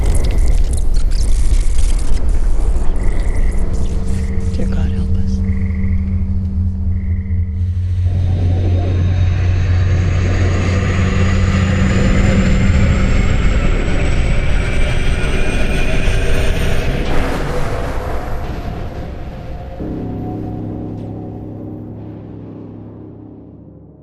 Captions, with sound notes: (tense menacing music) (machine beeping) - Dear God, help us. (space ship whooshing) (gentle menacing music)